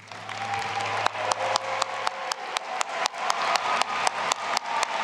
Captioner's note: audience applauding and cheering